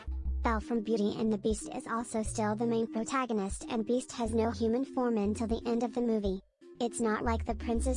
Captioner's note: robot voice